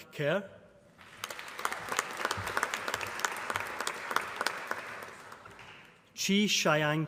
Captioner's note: applause